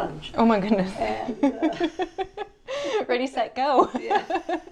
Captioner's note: laughs